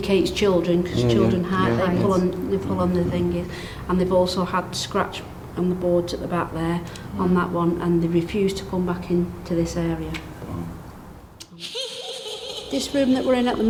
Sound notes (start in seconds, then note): 11.5 child giggling